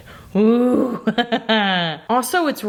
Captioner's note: chuckles